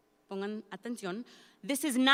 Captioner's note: speaks in Spanish